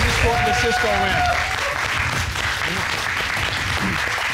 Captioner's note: applause